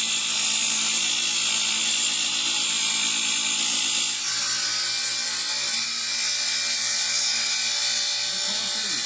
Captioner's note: buzzing